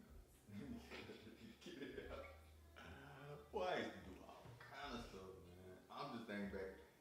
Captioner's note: both Laugh